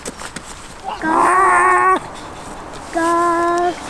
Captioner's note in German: Nachahmen von Hühner-Gackern